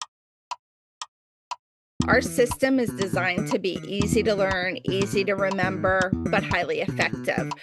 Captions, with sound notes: (Clock Ticking) Our system is designed to be easy to learn, easy to remember, but highly effective.